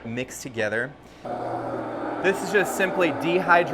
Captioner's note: machine roaring